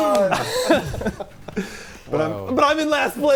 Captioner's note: players laughing